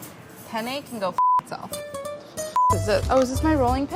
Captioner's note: beeping